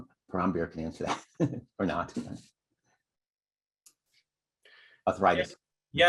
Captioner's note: laughter